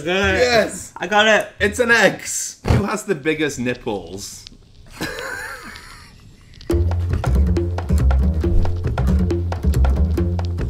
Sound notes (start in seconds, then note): 4.9 both laughing; 6.7 tribal music